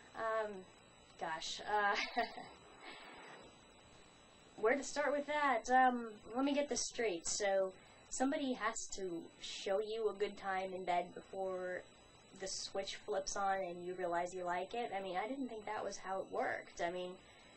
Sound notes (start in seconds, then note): 1.9 laughs